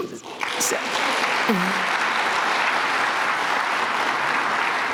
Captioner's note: applause